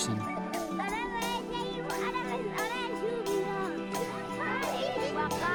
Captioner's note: speaking in foreign language